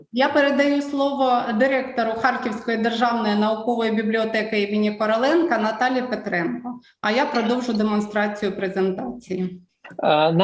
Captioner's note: foreign Language